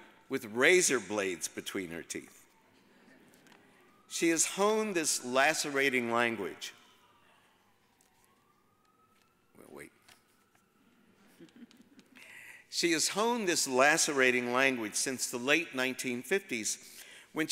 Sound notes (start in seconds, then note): 3.1 audience chuckles; 6.8 siren wailing; 11.2 audience chuckles